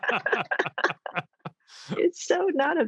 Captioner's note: all laugh